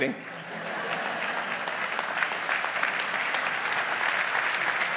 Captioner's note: audience applauds